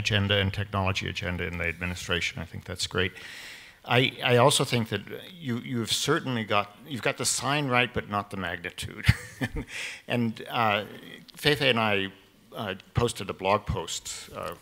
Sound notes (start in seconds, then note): 9.4 laughs